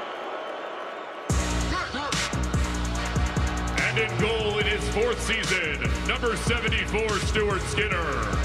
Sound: crowd noise

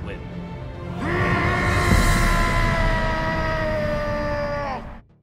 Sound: Titan Eren roaring

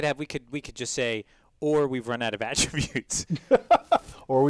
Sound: laugh

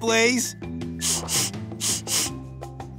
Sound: sniffing

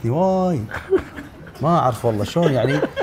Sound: laughs

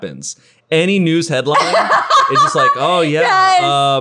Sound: laughing

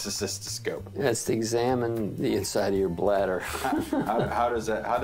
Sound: laughs

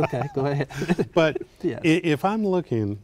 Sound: laughing

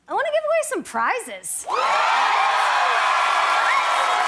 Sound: cheers and applause

